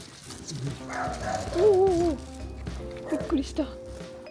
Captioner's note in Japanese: 犬の吠え声